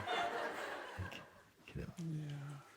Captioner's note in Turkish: Kahkaha